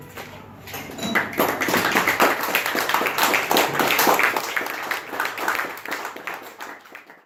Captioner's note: applause